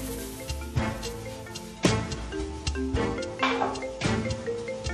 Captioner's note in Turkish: telefon çalıyor